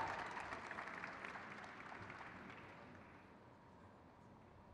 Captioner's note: crowd claps